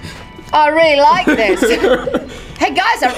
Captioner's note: both chuckle